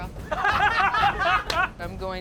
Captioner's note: laughter